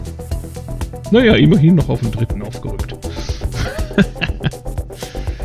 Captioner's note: laughs